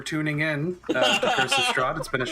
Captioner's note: laughter